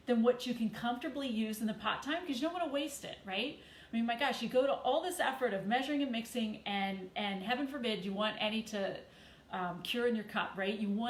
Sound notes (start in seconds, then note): none